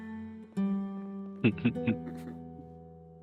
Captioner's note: both chuckling